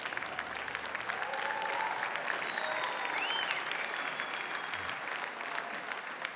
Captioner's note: audience cheers; audience applauds